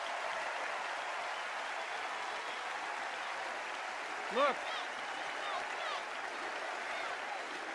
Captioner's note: applause